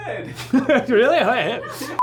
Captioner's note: laughs